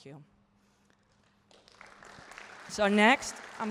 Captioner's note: applause